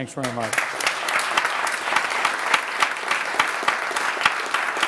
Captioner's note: applauding